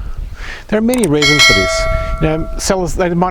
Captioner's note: subscribe bell ringing